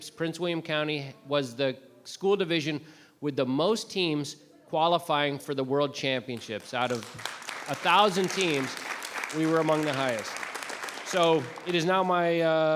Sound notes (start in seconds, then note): 6.3 members clapping